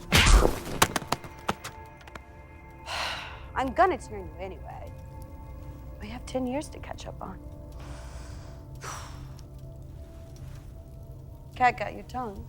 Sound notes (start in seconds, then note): 0.1 tense music continues; 7.8 sighs